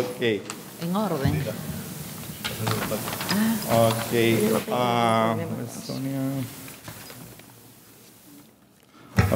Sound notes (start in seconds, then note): 1.0 speaking in a foreign language